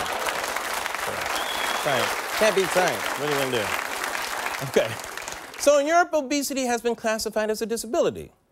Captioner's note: applause